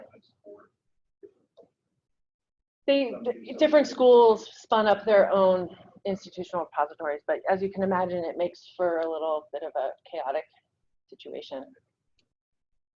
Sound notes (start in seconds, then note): 0.4 speaking away from mike